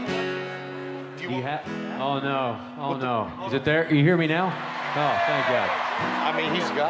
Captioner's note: cheering continues